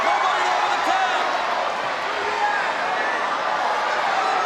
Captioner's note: crowd cheering